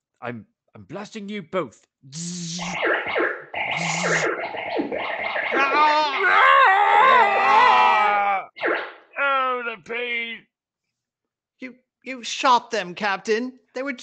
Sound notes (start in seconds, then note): 3.5 zaapppp; 3.5 zaappppp; 5.6 Announcer and Narrator shouting in pain; 10.1 silence